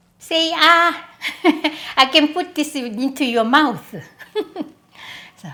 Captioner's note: laughs